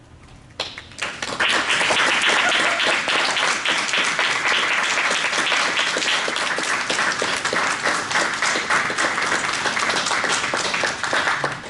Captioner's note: applause